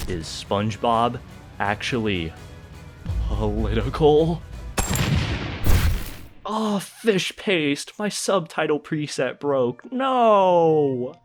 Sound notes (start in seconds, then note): 4.8 boom zap idk sfx